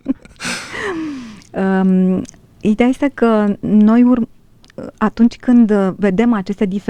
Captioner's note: laughter; gasp